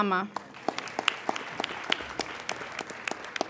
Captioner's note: applauding